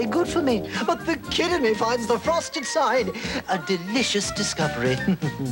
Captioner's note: chuckles